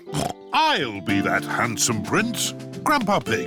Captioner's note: snorts